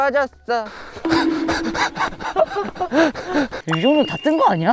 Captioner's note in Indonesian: Tertawa nyata